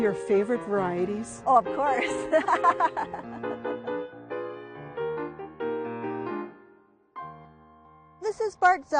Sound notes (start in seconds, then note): 2.0 both laughing; 7.4 soft piano music